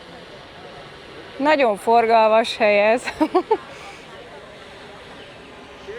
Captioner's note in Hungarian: nevetés